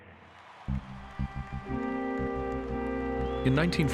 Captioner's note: crowd cheering